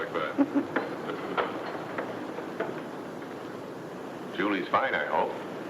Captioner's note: Dr. Baldwin chuckles; footsteps shuffle